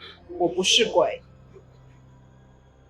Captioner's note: Mandarin language